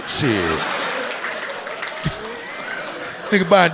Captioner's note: audience cheering